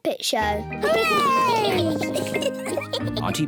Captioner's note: giggles